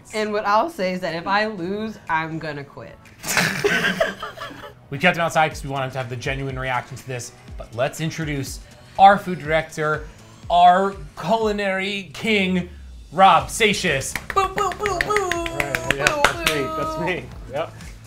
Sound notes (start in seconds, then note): 3.2 laugh